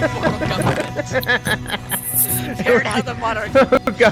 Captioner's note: laughs